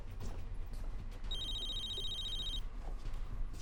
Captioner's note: phone rings